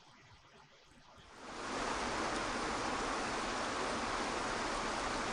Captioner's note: waterfall crashing